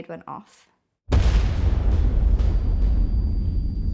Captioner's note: explosion roars; high-pitched tone rings